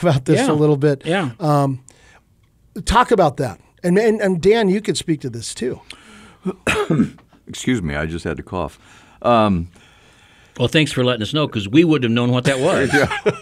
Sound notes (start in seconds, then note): 6.4 coughs; 12.5 co-hosts laugh